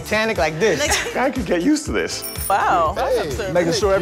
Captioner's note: bicycle bell rings